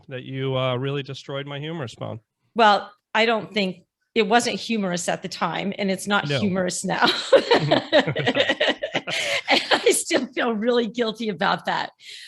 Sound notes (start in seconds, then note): 7.1 laughs